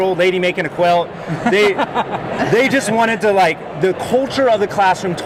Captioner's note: laughing